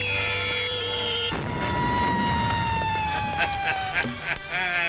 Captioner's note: Vol Plane whistles; Vol Plane explodes; laughs